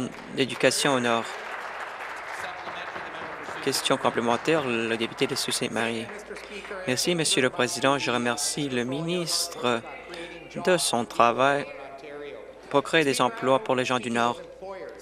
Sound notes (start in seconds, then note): 3.6 applause